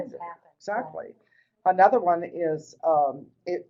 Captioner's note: voiceover